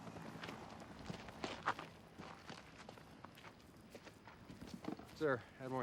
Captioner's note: footstep